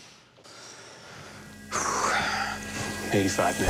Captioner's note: sighs